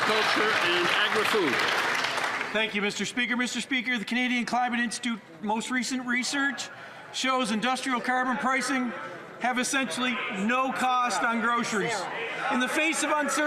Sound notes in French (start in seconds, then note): 6.2 voix de l'interprète; 11.4 voix de l'interprète